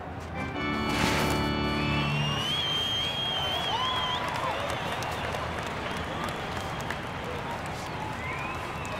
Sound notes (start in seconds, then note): 1.7 audience cheers